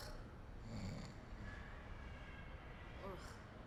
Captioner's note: snoring softly